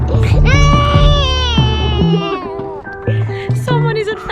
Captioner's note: baby crying